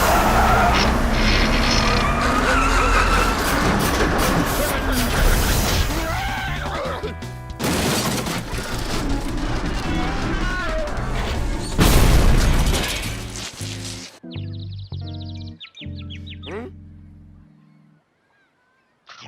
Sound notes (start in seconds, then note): 7.6 crashing noise; 14.2 birds tweeting